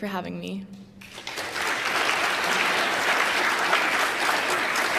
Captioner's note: applause